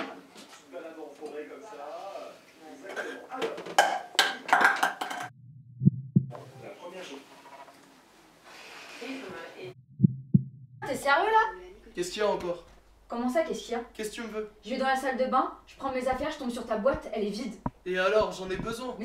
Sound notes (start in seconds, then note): 5.4 heartbeat; 9.8 heartbeat